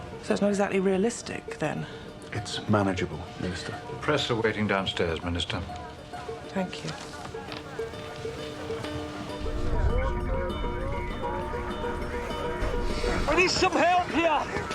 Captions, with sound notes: So it's not exactly realistic then. It's manageable, Minister. The press are waiting downstairs, Minister. Thank you. (men chattering) (radio chatter) I need some help here!